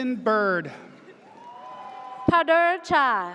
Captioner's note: audience cheers